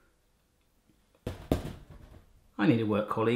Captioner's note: hand tapping